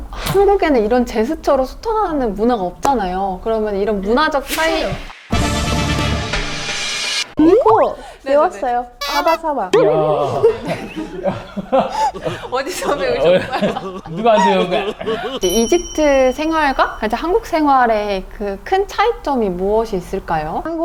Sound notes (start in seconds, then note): 9.8 everyone burst into laughter